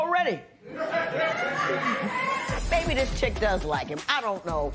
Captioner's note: laughter